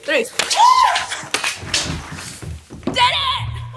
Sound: girls wooing

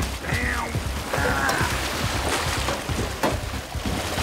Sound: splashing

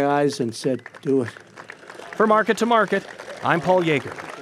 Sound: applause

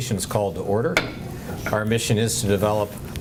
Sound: gavel taps

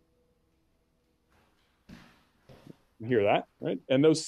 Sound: footsteps tapping

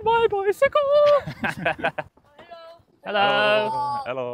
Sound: laughing

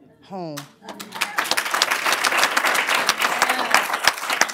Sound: applause

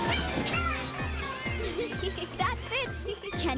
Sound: chuckling

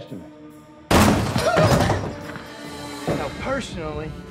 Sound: whimpers

